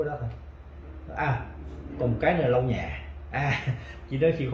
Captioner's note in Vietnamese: Cười